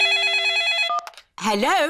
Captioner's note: phone rings